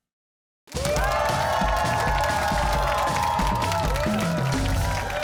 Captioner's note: cheers and applause